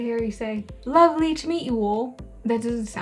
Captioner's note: best accent I can muster